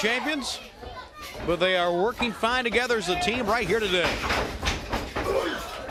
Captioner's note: crowd cheering